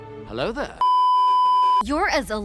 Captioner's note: beeeeeeeeeeeep